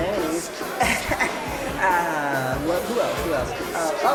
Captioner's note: laughs